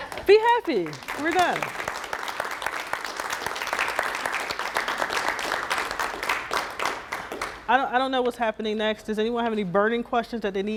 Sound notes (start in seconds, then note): 0.0 laughing; 1.7 crowd clapping